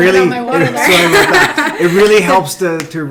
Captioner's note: laughing